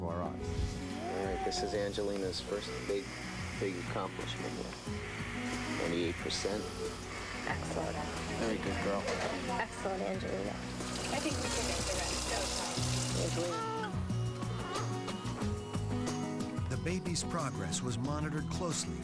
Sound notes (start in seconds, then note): 12.8 coos